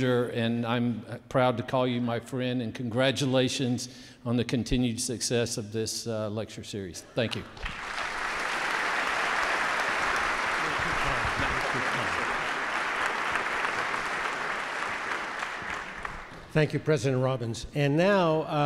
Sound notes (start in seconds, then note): 7.5 audience cheering and applauding